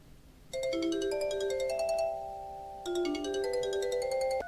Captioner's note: phone ringing